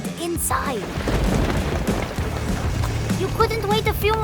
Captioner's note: thunder cracks